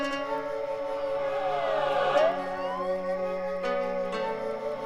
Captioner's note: sirens blaring